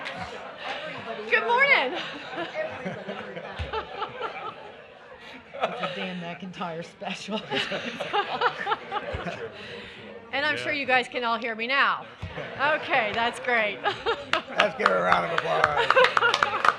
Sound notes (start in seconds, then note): 1.7 laughter